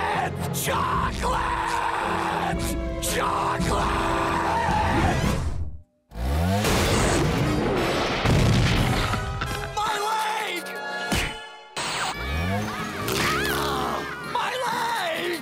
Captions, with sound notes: Chocolate?!! Chocolate?!! [thudding] My leg! AH! My leg!